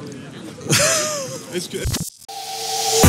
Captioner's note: laughs